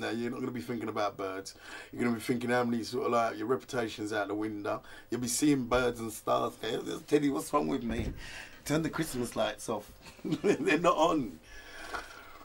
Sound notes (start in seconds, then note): 10.1 laughs